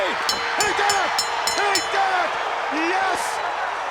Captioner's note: bell chiming; countdown thudding